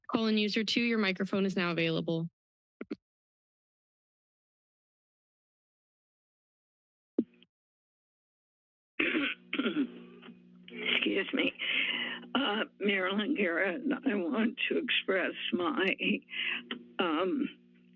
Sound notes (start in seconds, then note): 9.0 clears throat